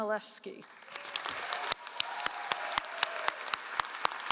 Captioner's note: all applauding